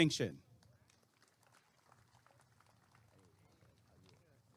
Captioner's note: applause and cheering